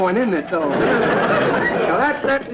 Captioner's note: audience laughter